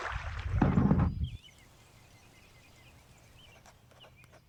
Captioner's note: birds chirping